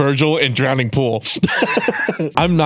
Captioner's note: laughter